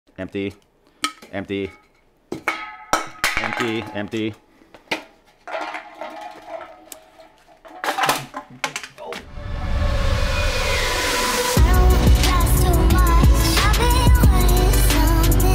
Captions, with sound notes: - Empty, empty. (cans clanking) Empty, empty. (cans clanking) (Upbeat Music)